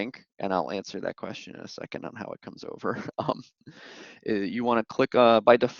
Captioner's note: laughter